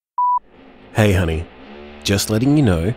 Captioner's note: background construction